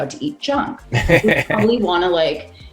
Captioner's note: laughing